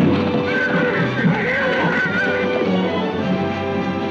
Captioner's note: gun bangs; horse whinnies; exciting music